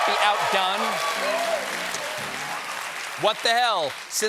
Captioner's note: cheers and applause